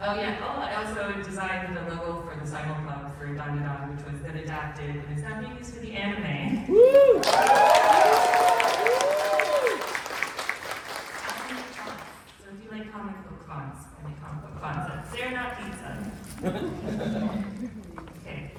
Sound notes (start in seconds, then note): 6.8 applause